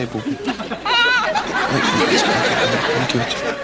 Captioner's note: cries